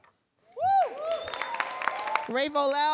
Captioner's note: audience cheering and applauding